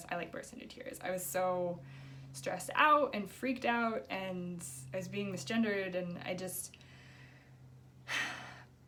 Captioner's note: sigh